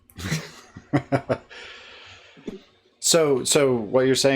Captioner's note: laughs